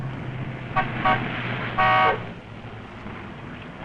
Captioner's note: horn honking